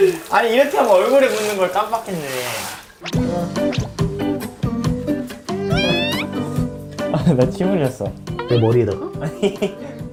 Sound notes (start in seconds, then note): 2.7 scrubbing